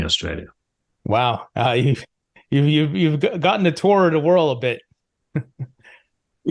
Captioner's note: laughs